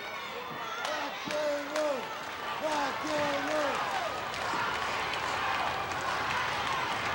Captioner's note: wrestler chanting; audience chanting